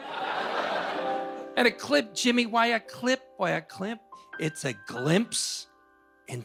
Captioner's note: laughter